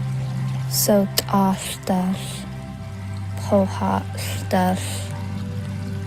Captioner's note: narrator continues speaking in foreign language